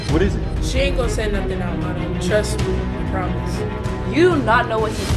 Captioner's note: faintly speaking